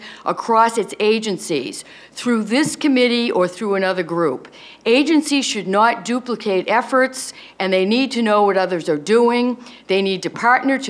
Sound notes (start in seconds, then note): none